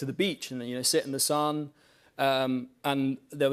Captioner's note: none